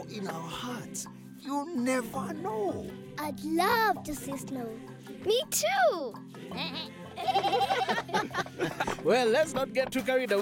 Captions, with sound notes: You never know! - I'd love to see snow! - Me too! (bleating, laughing) - Well, let's not get too carried away, eh?